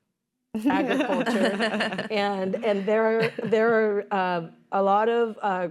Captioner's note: laughter